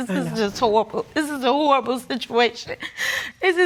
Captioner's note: sobbing